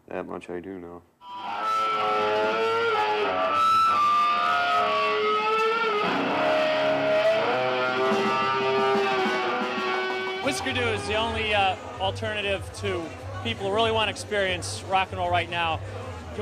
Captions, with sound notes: That much I do know. (guitar feedback screeching) - Husker Du is the only alternative to people who really wanna experience rock and roll right now.